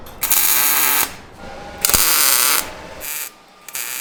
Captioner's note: welding